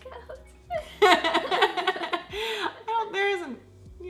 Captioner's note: laughs